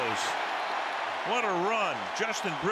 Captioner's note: cheering